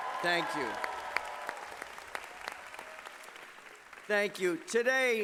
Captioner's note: applause